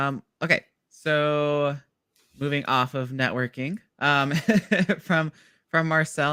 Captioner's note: laughs